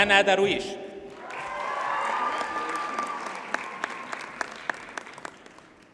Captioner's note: audience cheers and applauds